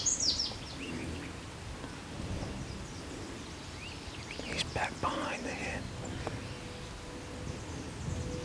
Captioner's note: whispering